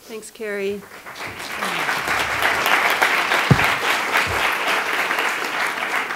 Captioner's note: attendees applauding